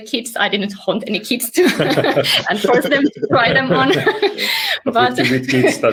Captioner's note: laughs